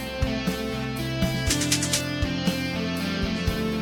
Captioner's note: rhythmic clicking